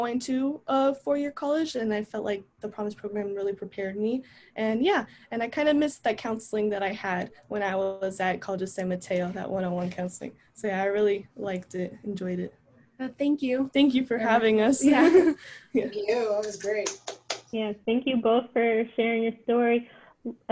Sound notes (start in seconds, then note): 14.9 laughter; 16.5 applause